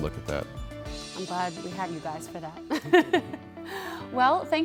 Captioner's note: laughs